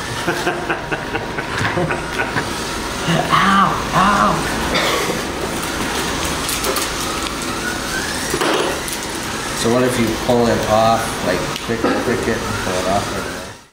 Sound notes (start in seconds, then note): 0.1 laughing; 4.3 machine sounds